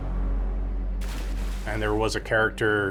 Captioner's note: water splashes